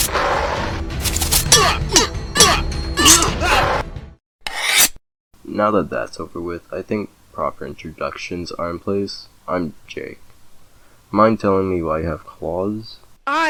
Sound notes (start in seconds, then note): 4.4 shing sounds